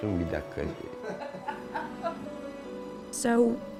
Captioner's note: laughing